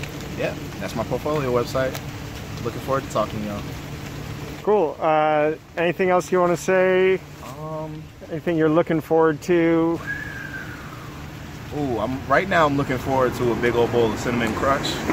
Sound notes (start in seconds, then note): 9.9 whistles contemplatively